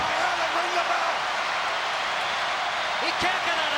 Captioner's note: crowd yelling